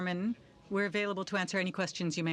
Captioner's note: speaking French